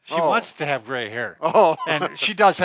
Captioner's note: chuckles